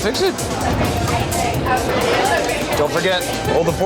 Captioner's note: chatter